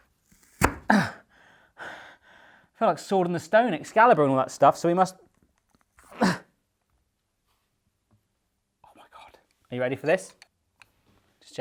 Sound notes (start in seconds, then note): 6.1 grunts